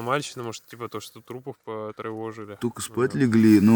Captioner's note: sarcasm